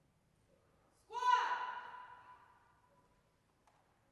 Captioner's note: yelling